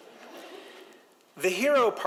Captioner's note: audience chuckles